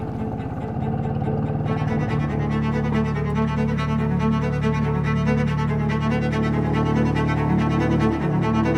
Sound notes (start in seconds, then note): 1.6 boat rumbling